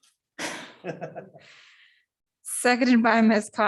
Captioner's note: laughter